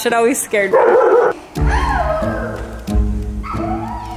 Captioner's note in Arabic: كلب ينبح